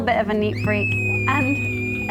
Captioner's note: baby shrieks